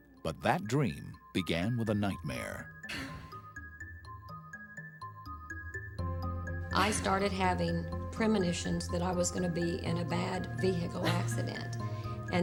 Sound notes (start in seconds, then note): 2.8 Becky gasping; 2.8 suspenseful music